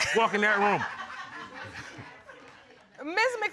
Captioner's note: audience chuckles; laughs